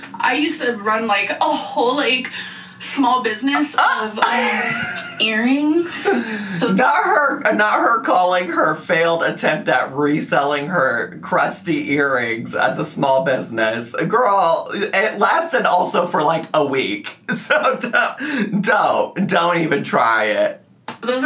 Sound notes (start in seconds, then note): 4.2 laughing; 19.9 laughing